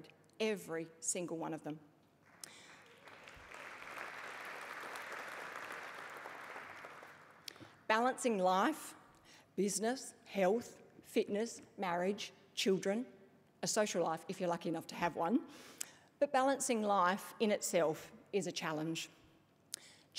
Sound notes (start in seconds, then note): 2.2 applause